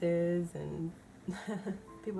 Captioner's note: laughs